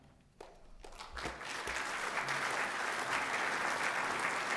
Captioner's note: applause